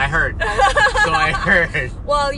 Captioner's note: laughs